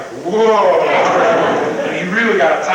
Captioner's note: crowd laughing